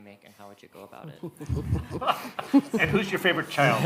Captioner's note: audience laughing